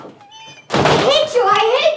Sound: door slams

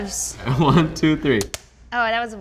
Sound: gloves snap

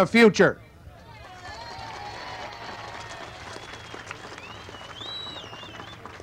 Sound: crowd cheering and applauding

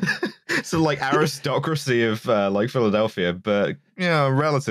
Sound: laughs

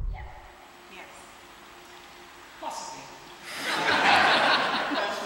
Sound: audience laughter

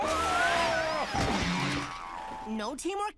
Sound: crashing

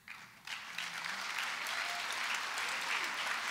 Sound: applause

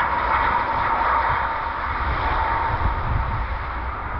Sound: tires screeching

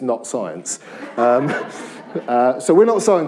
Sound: laughter

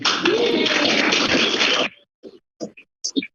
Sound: applauding

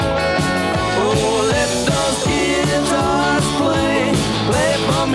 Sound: ooh, ooh, ooh

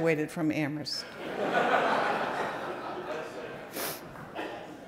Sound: audience laughing

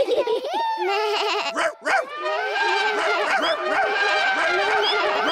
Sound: all giggle; all shout and make noises

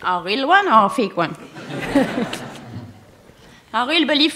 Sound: laughter

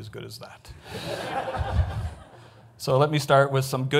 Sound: audience laughs

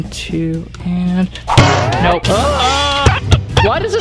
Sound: banging

